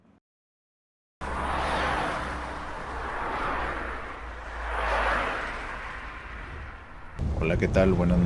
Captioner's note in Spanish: Sonido golpe y de auto derrapando; Sonido de autos circulando en carretera a alta velocidad